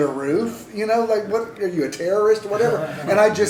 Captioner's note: laughter